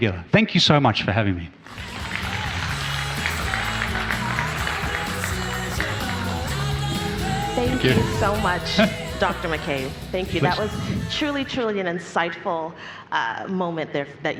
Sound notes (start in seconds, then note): 3.2 audience applauds